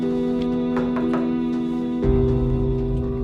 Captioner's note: knocks on door